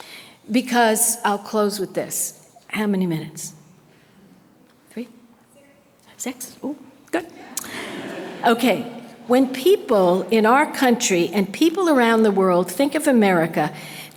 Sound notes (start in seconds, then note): 7.4 audience laughter